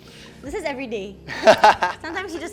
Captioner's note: laughs